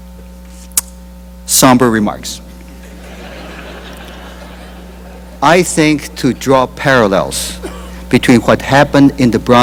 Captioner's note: laughter